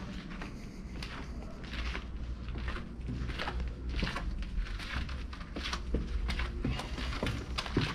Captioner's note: steps